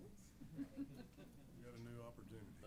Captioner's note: laughs